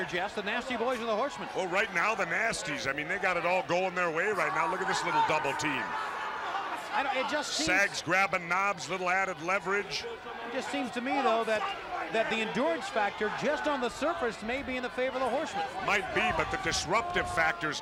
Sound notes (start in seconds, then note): 10.9 crowd chatter